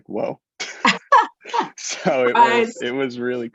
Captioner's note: both laughs